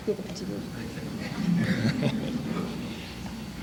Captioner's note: laughter